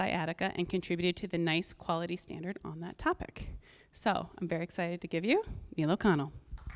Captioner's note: audience clapping